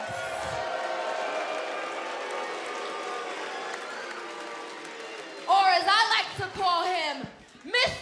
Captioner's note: cheers and boos